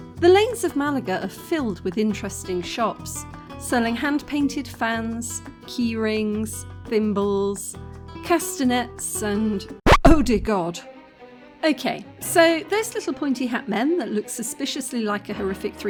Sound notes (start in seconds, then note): 9.8 record scratch; 11.1 sinister music